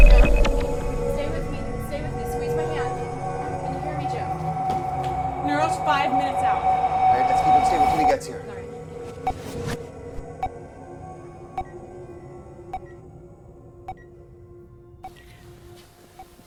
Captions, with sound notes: Jim, stay with me, stay with me, squeeze my hand. Can you hear me, Jim? - Neuro's five minutes out. - All right, let's keep him stable until he gets here. (machine beeping) (suspenseful music)